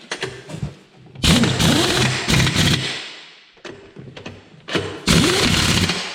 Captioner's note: impact wrench whirring